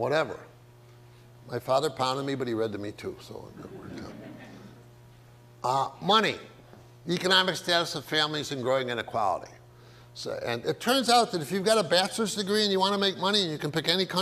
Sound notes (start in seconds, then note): 3.4 audience laughs